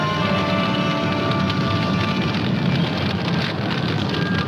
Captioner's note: eerie whistling